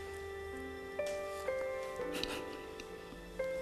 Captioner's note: sobbing